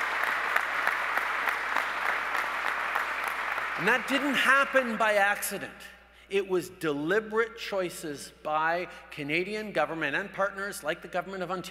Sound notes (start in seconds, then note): 2.7 applause